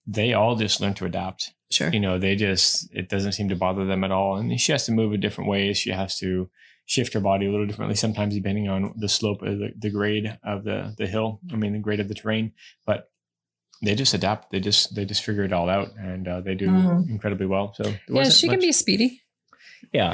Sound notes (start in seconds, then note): 18.6 laughs